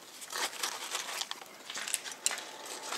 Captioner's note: rusting; even whirring